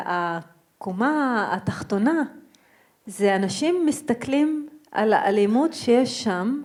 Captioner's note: speaking in foreign language